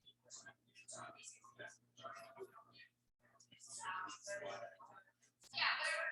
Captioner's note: people chattering indistinctly